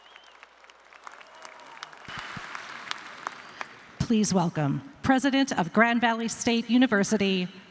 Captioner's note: cheers and applause